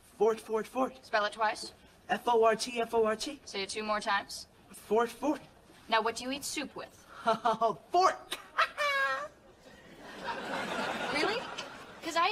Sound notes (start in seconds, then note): 9.7 laugh track